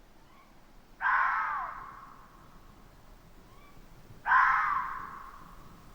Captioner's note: animals screeching